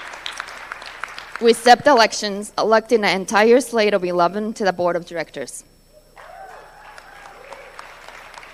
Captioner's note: applause